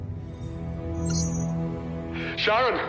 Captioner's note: beeping